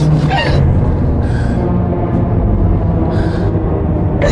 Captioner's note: Nurse Follo gasps